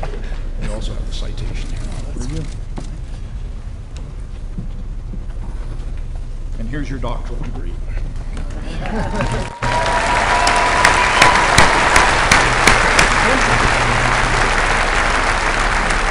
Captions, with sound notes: And also get the citation. And here's your doctorate degree. [APPLAUSE]